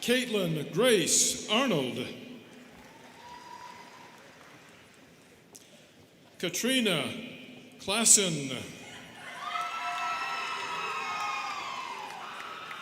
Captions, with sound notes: Kaitlyn Grace Arnold. (students clapping) Katrina Clasen. (students cheering)